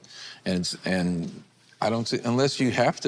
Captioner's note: none